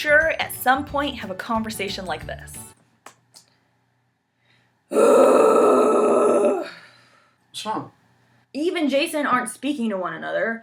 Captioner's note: loud groan